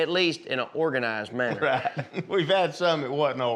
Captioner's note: laughs